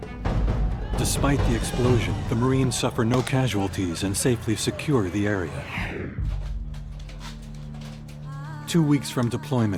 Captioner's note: voiceover